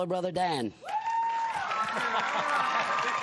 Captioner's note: cheers and applause